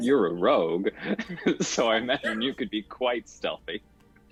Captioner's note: chuckles